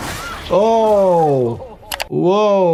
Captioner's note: characters shouting; flesh spattering